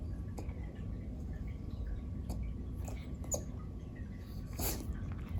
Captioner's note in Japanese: ずっと小声でくんくん言ってる